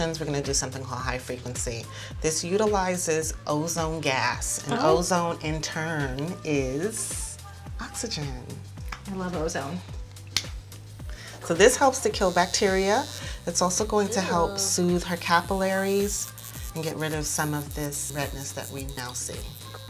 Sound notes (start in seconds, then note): 10.4 switch clicking; 19.7 buzzing